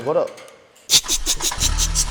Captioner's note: starting the engine